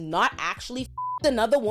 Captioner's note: beep